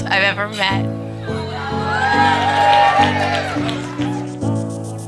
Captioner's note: cheering; upbeat music